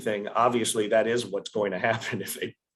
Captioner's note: laughs